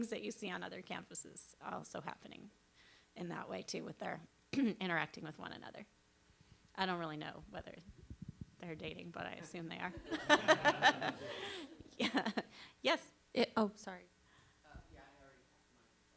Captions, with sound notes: that you see on other campuses are also happening in that way, too, with their interacting with one another. I don't really know whether they're dating, but I assume they are. [LAUGHING] Yes?